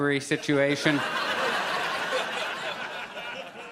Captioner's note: audience laughs